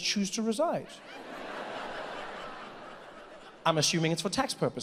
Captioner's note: audience laughs